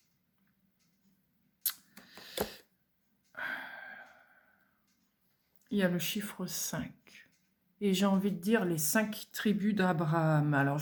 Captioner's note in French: soupir